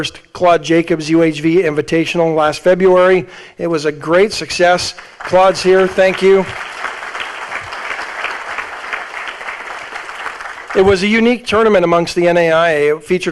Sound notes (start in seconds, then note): 6.9 audience applauding